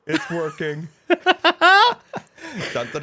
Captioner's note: laughter